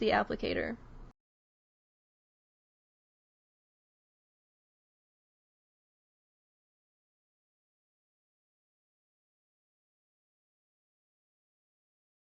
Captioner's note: no audio